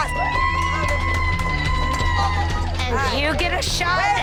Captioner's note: cheering